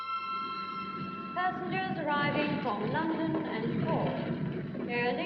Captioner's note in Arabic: مكبر الصوت